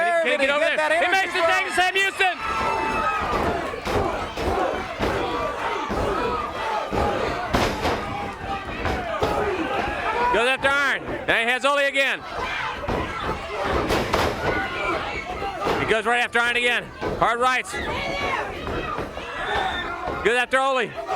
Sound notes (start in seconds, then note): 13.3 crowd cheering; 14.7 crowd chatter; 17.8 crowd cheering